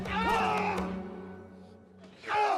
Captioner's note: screams